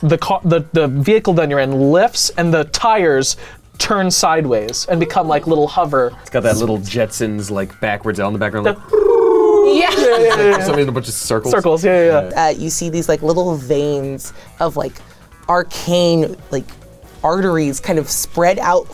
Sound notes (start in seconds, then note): 8.6 cooing; 8.6 laughing